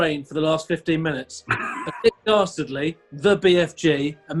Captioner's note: sniggers